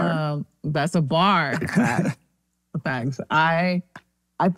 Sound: laughs

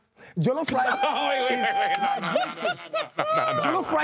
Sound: everyone laughs

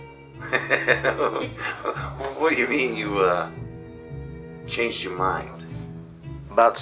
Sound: laughs

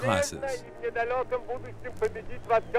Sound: Russian spoken audio

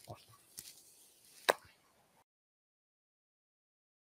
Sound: hand claps

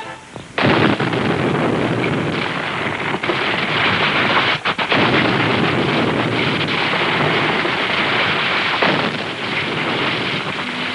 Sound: exploding

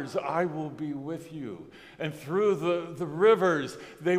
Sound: none

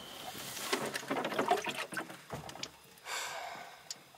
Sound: water rippling; sighing

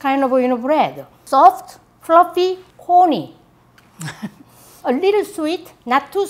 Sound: laughs

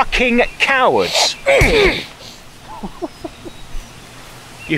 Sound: punch

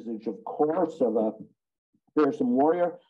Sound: speaking in Japanese

